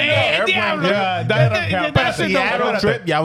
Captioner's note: laughing